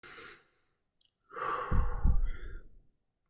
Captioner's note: exhale